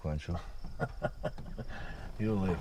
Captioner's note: laughs